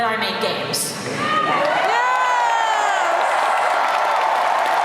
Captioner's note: crowd cheers